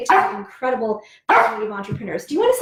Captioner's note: dog barking